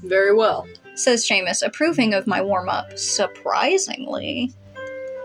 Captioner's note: none